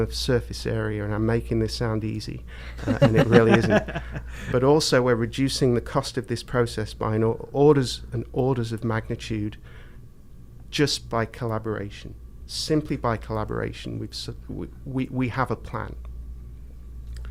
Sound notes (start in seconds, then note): 2.8 laughing